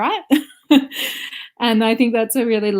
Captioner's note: laughs